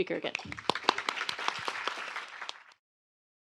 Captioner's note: applause